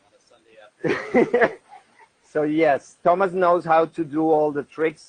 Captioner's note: laughs